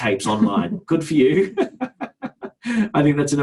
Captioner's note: laughs